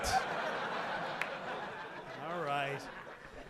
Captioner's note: audience laughing